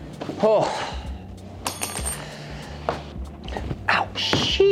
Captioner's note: sighs